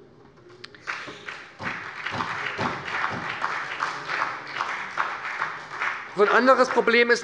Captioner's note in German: Beifall bei der SPD